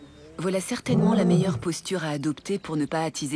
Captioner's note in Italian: ruggito